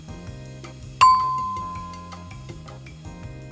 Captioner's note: ding!